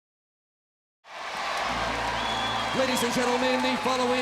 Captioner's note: crowd cheering